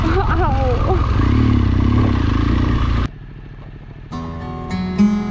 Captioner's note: motorbike roaring; tranquil music